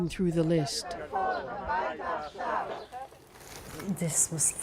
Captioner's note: chants